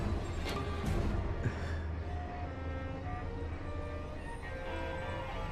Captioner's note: unsettling music; Patrick chuckles